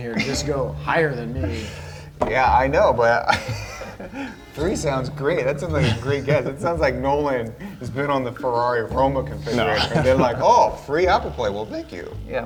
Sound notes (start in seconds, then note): 3.1 laughs